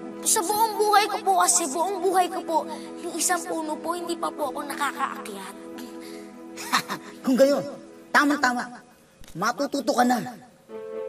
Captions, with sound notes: You see, in all my life, I haven't climbed up a single tree. [laughs] In that case, this is perfect. Now, you're going to learn how.